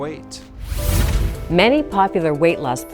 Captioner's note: air whooshes